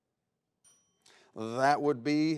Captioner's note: bell rings